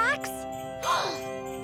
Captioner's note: Milo gasps; Milo giggles